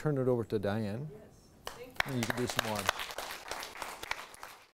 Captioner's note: applause